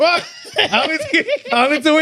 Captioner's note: laughing